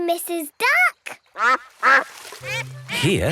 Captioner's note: quacks